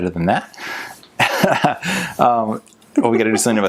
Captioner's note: laughs